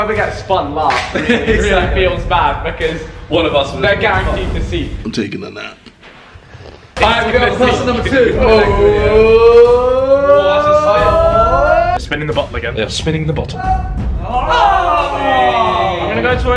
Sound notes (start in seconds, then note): 1.0 laughing; 8.8 suspenseful cheering